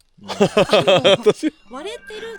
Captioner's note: laughs